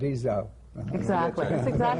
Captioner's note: laughter